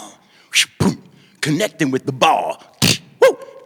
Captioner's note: crack of bat against ball